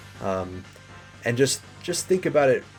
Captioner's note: none